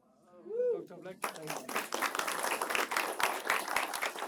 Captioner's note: applause